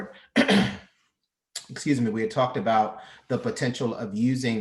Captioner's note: clears throat